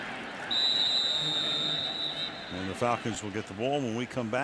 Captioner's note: whistle